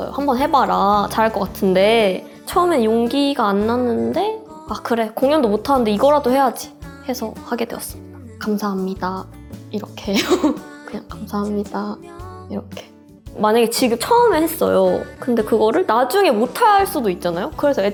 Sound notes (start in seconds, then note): 10.1 laugh